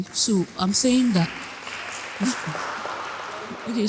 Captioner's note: applause